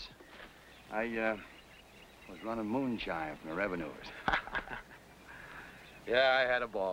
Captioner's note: laughs